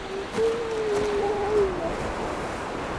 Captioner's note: seal moaning